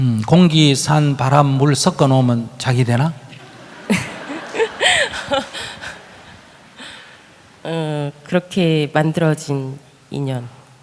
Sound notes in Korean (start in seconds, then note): 3.4 질문자 웃음